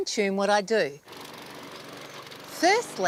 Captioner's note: mower putters